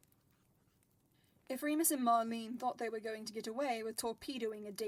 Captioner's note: fire crackles